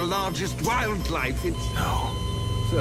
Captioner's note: monitor flatlines